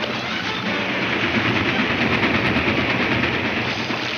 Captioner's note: train clatters